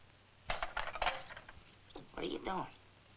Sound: lock clicking

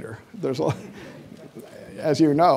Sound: audience laughing

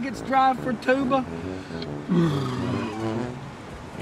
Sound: jim burps

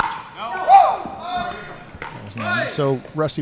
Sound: players chattering

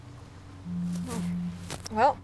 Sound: phone Buzzes

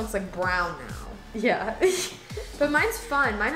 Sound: laughs

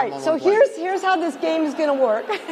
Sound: laughter

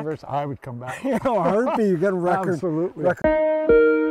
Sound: laughing

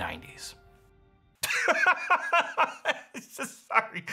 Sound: laughing

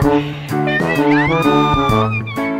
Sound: screams

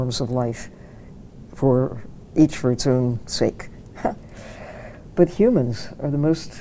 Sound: chuckles

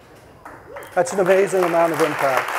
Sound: audience lightly chuckling; audience applauding; audience cheering

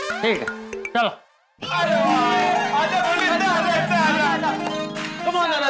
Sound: cheering

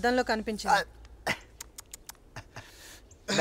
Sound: clicks tongue

